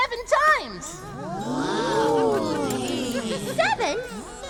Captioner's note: impressed Kobold noises